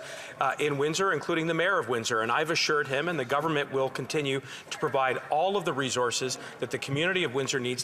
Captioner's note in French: voix de l'interprète